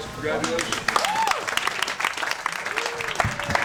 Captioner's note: applause